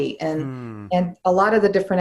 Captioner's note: humming